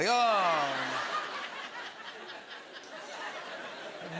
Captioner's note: laughter